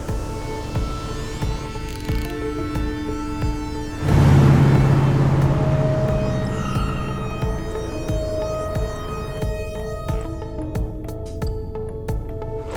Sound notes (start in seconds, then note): 1.6 winder clicking; 3.8 engine revving; 6.3 tires screeching; 10.2 soft jingle